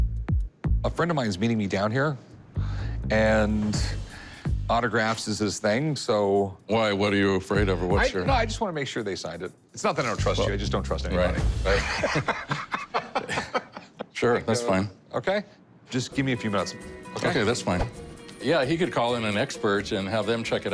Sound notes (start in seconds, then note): 11.7 laughing